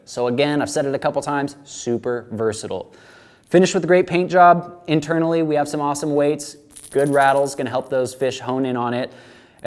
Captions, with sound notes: So again, I've said it a couple, times super versatile. Finished with a great paint job. Internally, we have some awesome weights, (rattling) good rattle, its gonna help those fish hone in on it